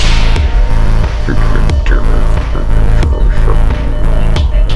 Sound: mumbling darkly

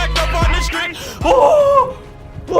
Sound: screams

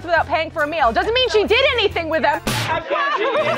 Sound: laughter

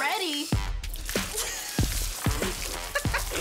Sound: water splashes; laughing

